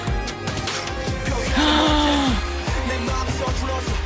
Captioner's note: gasp